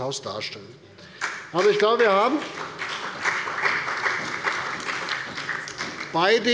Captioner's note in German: Beifall bei der CDU und dem BÜNDNIS 90/DIE GRÜNEN